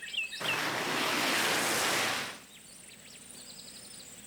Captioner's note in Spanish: motor roncando